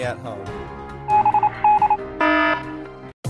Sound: alarm; morse code

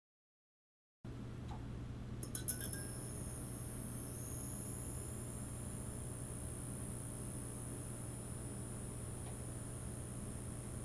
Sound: sound of flickering lights

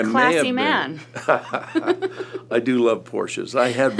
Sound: laughter

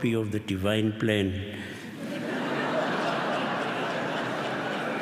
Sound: laughter

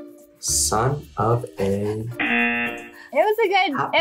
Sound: buzzer rings

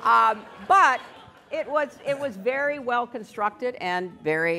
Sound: laughter

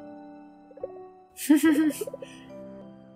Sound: giggling

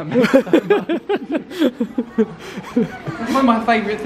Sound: laughs

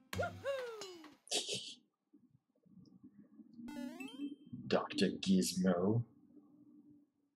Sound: laughs softly

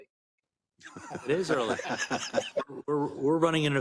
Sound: laugh

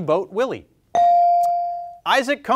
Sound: bell ringing

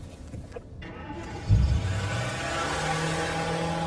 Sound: engine starts

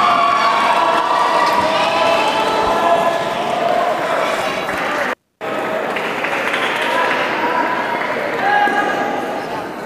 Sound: applause

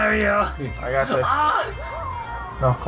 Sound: yelling

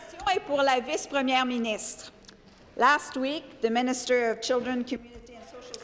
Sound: speaking in French

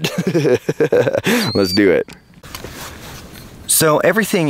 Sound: narrator chuckling

